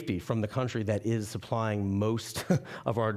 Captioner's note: chuckling